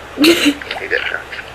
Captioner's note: camera person laughing